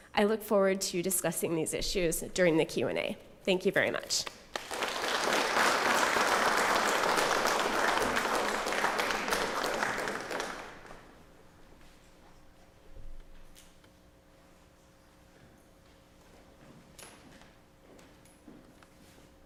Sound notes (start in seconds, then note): 4.4 applause